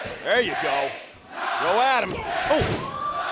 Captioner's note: crowd cheering